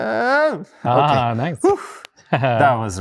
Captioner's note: guy sighs in satisfaction